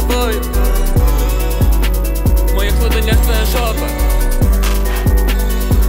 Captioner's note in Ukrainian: М-м